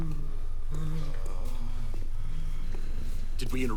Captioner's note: labored breathing